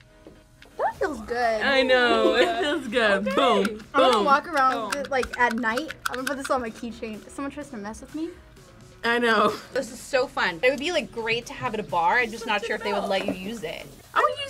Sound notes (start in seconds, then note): 9.6 laughs